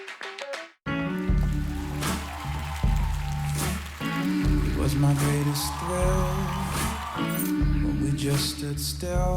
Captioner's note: applause, cheers